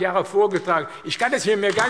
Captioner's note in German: Beifall AfD